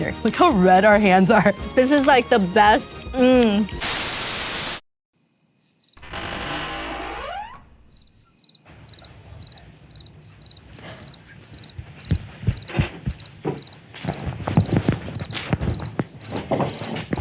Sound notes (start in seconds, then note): 3.8 static; 6.0 door creaking; 8.2 cricket chirping; 11.4 foot steps tapping; 14.1 bag crinkling